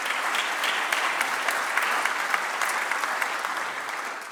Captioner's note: applause